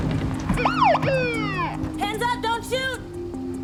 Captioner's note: window opening; police siren